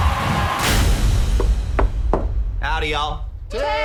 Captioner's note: light knocking